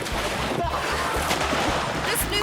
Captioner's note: pool toy splashing; reporter splashes; reporter gasps